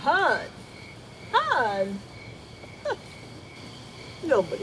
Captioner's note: scoffs